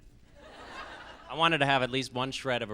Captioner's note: laughs